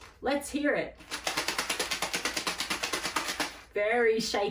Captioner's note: shaker rattles